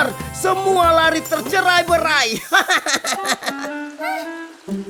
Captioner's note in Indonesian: Tertawa